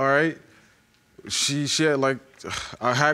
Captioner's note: sighs